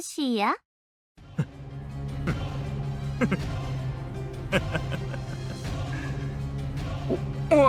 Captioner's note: slowly laughing